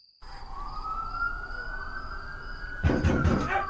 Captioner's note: police Sirens In The Distance; loud Heavy Knock At The Door